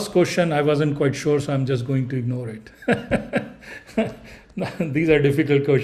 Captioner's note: laughing